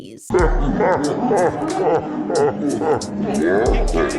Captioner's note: evil laughter